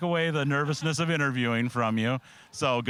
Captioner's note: laughing